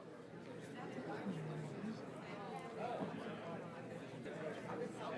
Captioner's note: audience chattering indistinctly